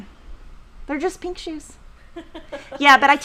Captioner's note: laughing